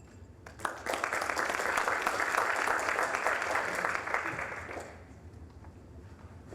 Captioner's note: applause